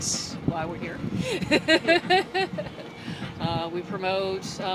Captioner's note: laughs